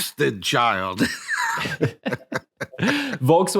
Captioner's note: laughing